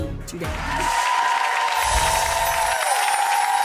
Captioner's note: cheering